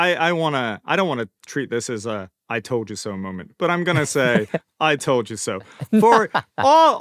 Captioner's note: laughter